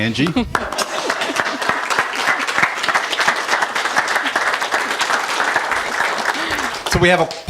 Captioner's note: applause